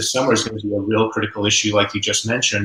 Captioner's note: voice muffled